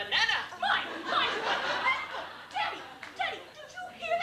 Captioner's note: laughter